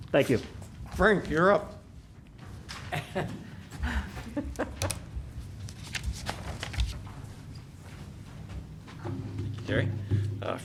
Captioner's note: laughter